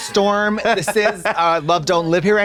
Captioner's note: Trixie fizzles